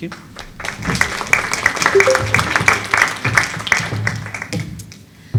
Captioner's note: applause